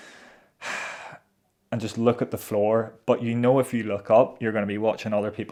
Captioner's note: sighs